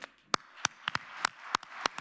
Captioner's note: applause